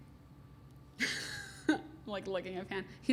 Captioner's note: laughs